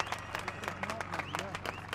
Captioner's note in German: Applaus